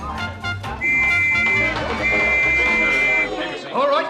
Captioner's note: whistle